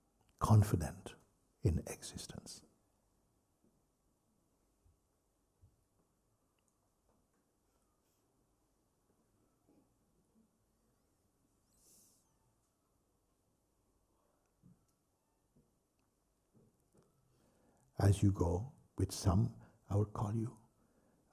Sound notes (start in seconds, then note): 4.1 silence